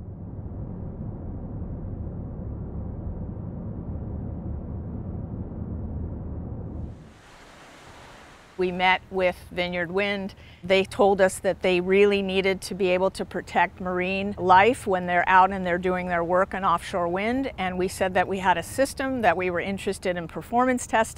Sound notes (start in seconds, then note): 0.0 wind whooshing; 6.8 waves crashing